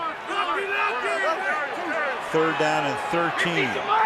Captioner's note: onfield chatter